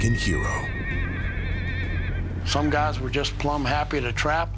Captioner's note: horse neighing